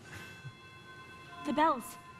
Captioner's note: bells tolling